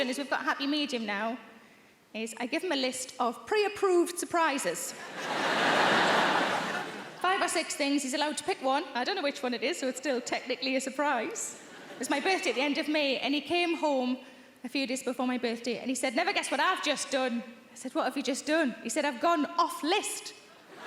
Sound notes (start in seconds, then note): 5.0 audience laughing